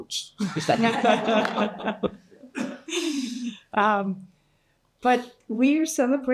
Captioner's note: participants and audience laughing